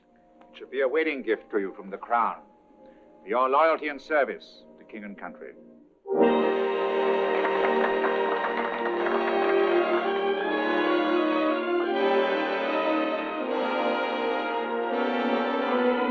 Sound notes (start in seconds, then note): 6.3 applauding; 8.4 grand orchestral music